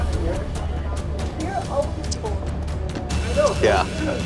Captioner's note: chatter